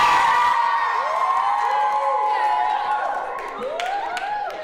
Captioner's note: cheers and applause